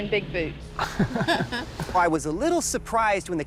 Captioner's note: laughter